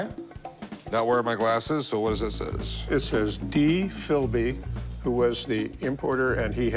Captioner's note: none